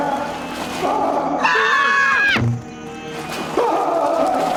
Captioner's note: Wiley bleating loudly; all yelling; Wiley echoed bleating